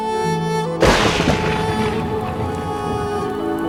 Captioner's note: thunder